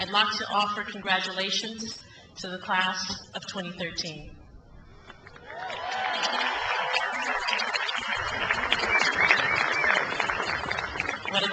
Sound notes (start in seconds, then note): 5.3 crowd applauds